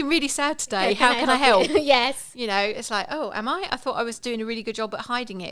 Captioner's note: laughing